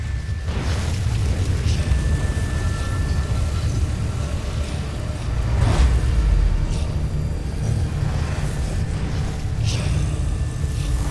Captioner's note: evil energy whoosh & crackle